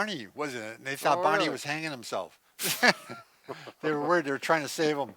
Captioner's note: laughs